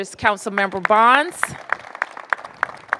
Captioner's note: applause